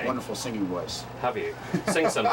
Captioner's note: laugh